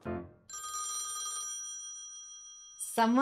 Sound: phone ringing

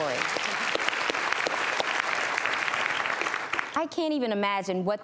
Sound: audience applauds

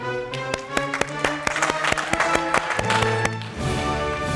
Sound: audience applauding

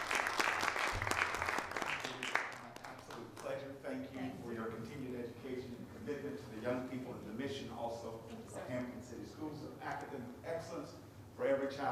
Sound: applause

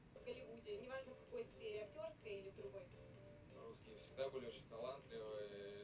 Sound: speaking in a foreign language

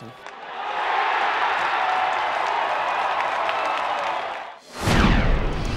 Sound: cheering

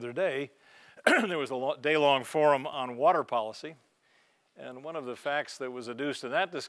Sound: cough

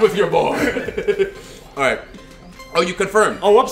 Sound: laugh

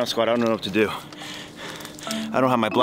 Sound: Dino Dad panting

